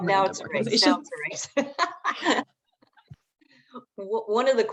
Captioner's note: laughs